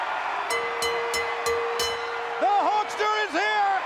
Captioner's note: bell ringing